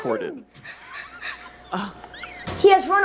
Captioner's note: interviewer laughing